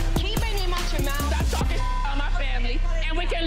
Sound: beep

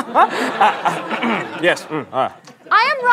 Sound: clears throat

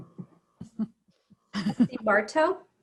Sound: members laughing

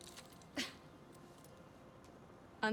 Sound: laugh

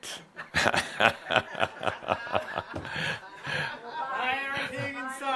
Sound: some chuckles

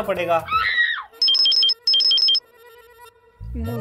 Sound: phone ringing

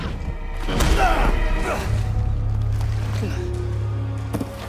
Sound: Marguerite laughing; Ethan grunting

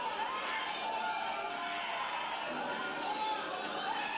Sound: people screaming

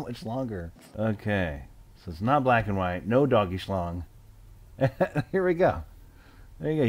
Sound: laugh

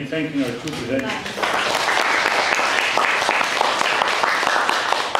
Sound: audience applauds

